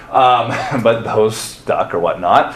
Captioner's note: chuckles